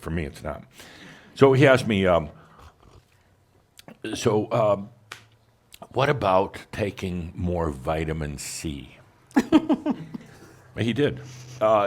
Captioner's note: giggles